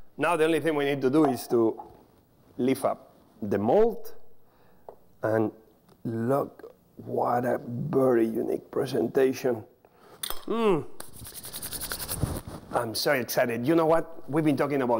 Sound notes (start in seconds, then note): 11.0 rubbing hands